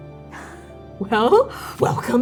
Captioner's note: laughing